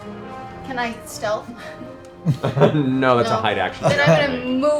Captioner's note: laughs